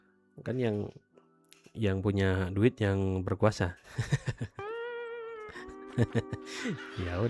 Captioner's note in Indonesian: tertawa